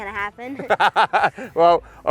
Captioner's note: laughing